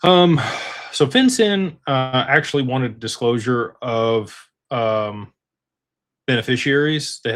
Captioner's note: sighs and gasps